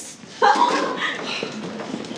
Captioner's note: laughing